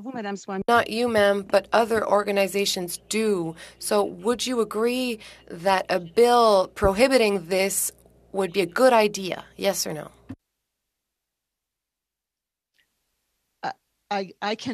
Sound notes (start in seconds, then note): 6.6 speaking French